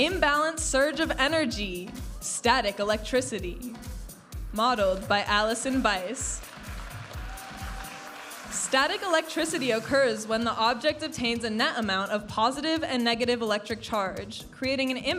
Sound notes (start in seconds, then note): 6.3 audience applauding and cheering